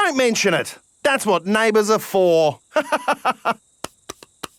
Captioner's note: laughs